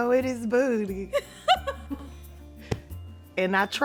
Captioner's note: Esther laughs